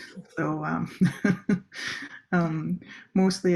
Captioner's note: laugh